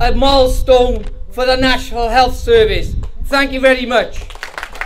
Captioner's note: applause